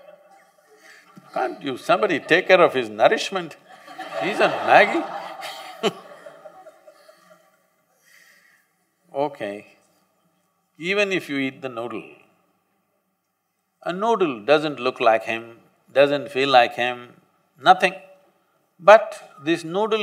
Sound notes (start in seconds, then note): 7.7 laughs